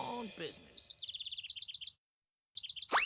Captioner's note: twittering